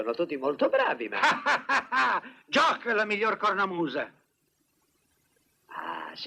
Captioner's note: laughs